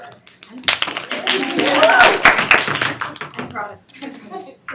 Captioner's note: students clapping